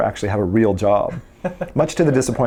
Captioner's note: interviewer laughs